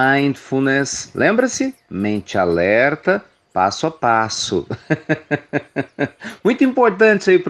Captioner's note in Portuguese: Risos